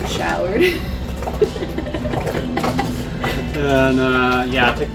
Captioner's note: laughing